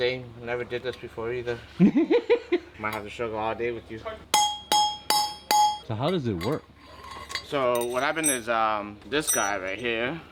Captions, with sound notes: Same, never did this before either. (laughing) I might have to struggle all day with you. (metal clanking) So how does it work? So what happened is this guy right here,